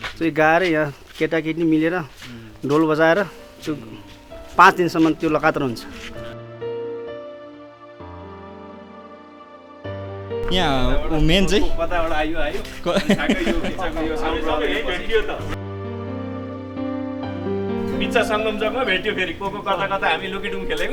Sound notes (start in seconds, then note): 12.8 laughter